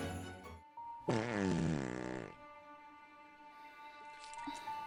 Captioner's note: Arizona farts